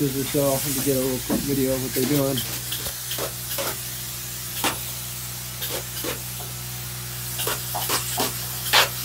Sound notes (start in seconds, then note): 4.3 spraying noise